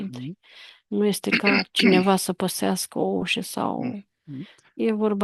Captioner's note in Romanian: voce dreasă